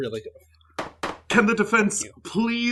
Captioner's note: gavel banging